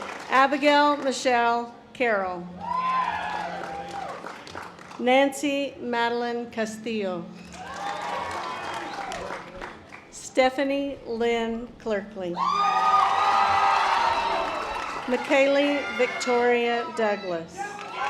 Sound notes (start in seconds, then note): 7.5 audience applause; 12.5 audience applause; 17.7 audience applause